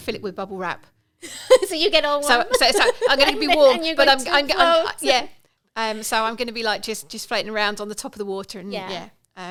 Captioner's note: laughing